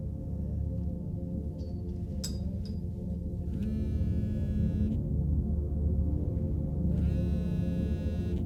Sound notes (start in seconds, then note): 3.7 phone vibrating